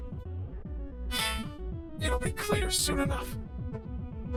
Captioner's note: sighs